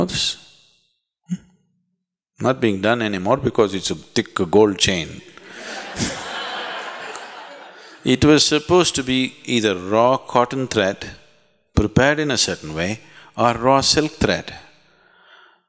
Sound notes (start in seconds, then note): 5.4 laughter